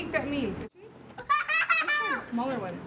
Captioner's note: child laughter